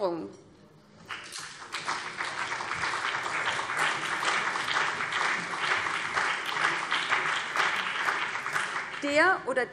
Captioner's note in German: Beifall BÜNDNIS 90/DIE GRÜNEN und CDU